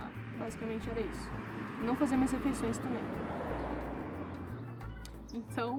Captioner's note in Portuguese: barulho de carro